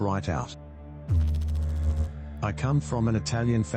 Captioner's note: electrical noise